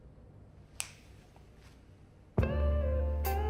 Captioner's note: snaps; relaxed jazz music